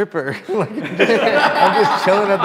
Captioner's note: group laughs